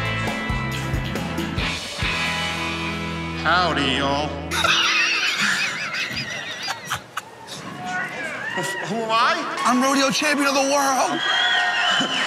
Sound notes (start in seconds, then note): 4.5 Jokers laughing